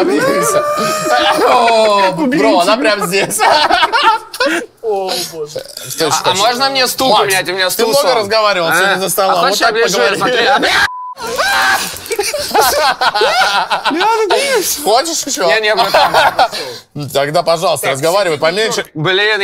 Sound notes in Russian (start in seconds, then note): 2.8 смех; 9.9 кричит